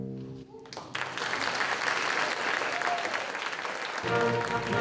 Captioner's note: audience applauding